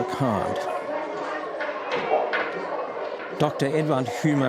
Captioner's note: children chattering